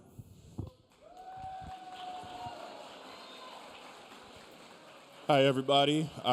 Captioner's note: audience applauding; audience cheering